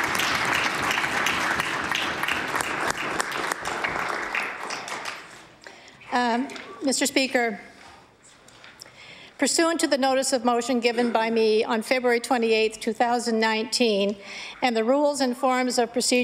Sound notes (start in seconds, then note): 5.5 applause